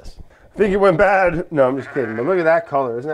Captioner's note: sheep ba-ing